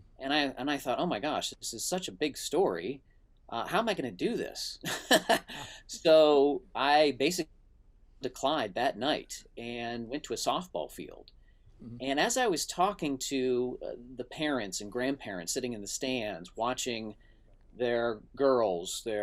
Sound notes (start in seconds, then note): 4.8 laughs